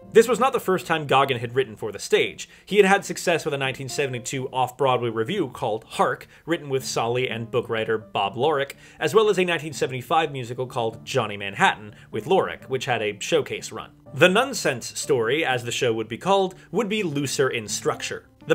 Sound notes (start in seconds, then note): none